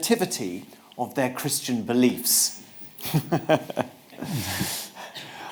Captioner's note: chuckles